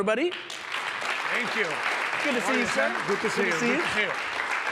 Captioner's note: applause